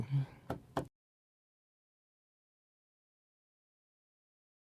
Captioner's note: fingers tap table